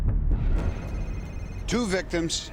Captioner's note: phone ringing